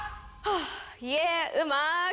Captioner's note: taking a deep breath